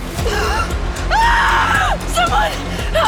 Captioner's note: Sarah screams